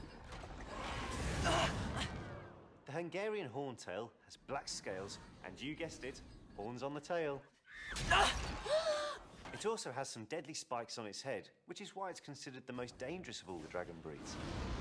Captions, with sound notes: The Hungarian Horntail has black scales and, you guessed it, horns on the tail. [HARRY GRUNTS AND MCGONAGALL GASPS] It also has some deadly spikes on its head... ...which is why it's considered the most dangerous of all the dragon breeds.